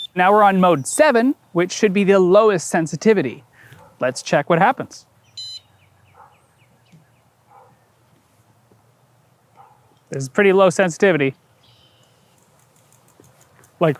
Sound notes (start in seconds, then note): 5.4 arm beep; 8.0 silence; 11.3 still silence